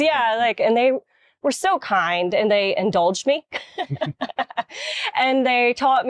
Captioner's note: laughs